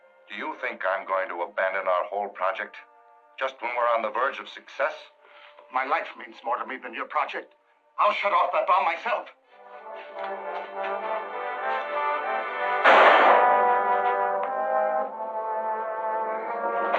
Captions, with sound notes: Do you think I'm going to abandon our whole project... just when we're on the verge of success? My life means to more to me than your project. I'll shut off that bomb myself! [tense music] [gunshot]